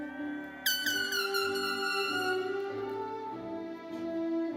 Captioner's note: horn blares